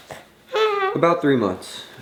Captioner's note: coos